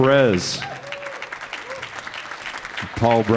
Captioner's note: audience applauding